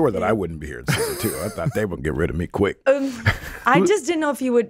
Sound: laughs

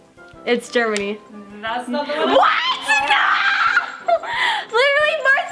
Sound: screams

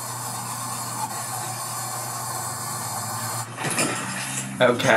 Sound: water continues rushing

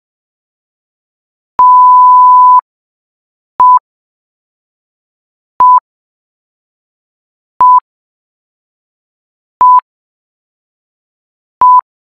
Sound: beeps

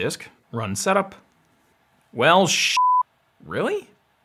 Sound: beeps

